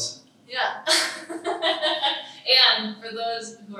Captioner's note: laughs